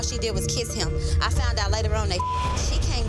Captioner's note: beep